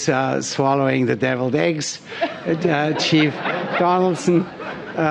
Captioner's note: laughter